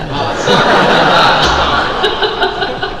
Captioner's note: crowd laugh